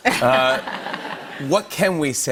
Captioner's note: laughter